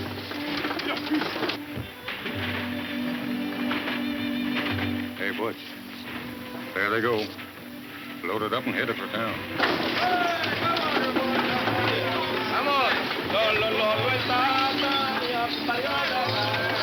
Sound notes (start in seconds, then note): 9.8 group exclaiming distantly